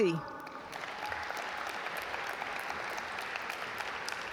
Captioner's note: audience applaud